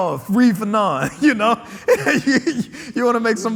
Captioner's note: laughing